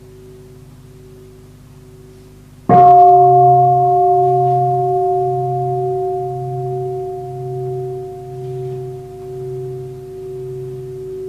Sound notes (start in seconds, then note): 2.7 bell